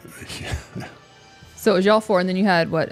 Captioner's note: laughs